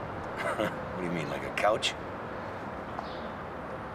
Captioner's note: chuckling